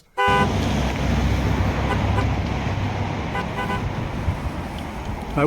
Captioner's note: car horn